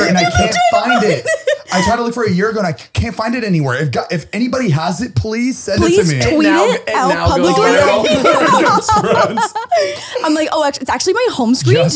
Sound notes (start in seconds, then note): 7.7 all laughing